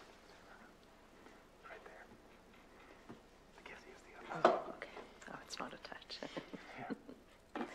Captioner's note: laughs